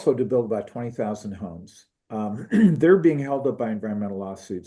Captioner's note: cough